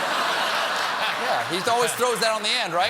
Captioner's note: laughter; applause